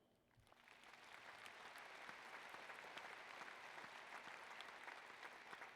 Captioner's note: applause